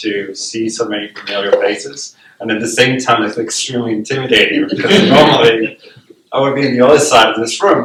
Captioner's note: laughter